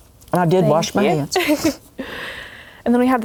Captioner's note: laughs